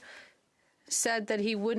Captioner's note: speaking French